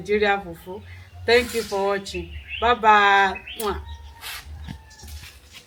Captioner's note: kisses